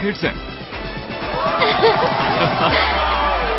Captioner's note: all cheering